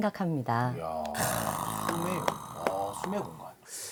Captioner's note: clapping